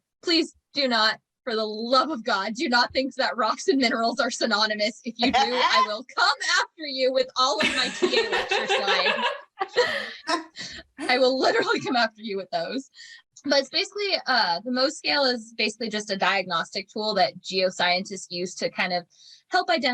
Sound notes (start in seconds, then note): 9.7 cackling